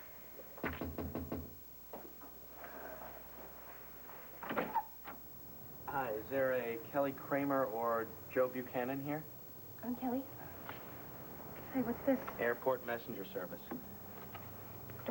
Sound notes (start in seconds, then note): 2.4 knock on door